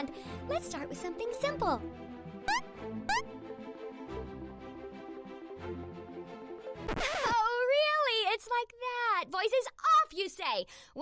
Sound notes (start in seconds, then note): 2.4 8-bit jump sound effects; 6.8 record scratch